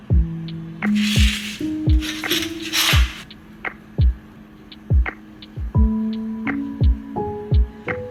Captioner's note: kneading